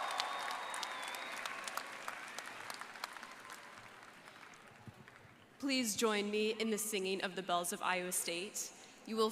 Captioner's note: applause